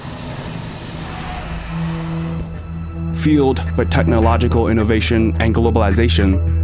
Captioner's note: plane taking off